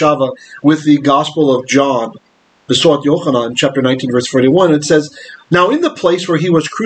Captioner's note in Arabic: بالعبرية